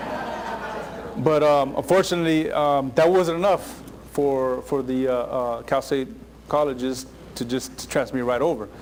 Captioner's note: laughter